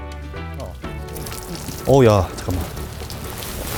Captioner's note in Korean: 콸콸콸